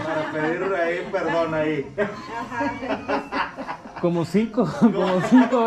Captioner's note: laughs